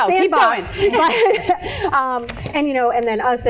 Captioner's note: laughing